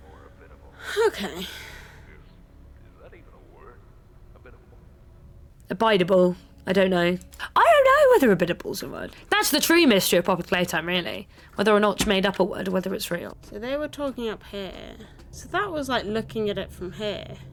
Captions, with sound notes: *exhale* okay Abidable? I don't know? I don't know whether abidable's a word? That's the true mystery of Poppy Playtime really! Whether Mitch made up a word or whether its real So they were talking up here So that was like looking at it from here